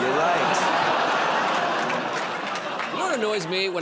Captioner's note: laughter, groaning